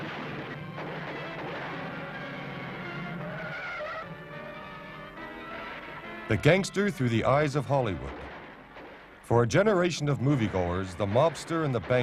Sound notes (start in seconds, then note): 3.4 brakes squeal